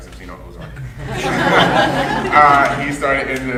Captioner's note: audience laughing